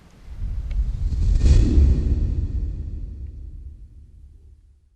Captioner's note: whooshing